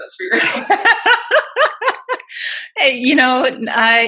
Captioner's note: laughs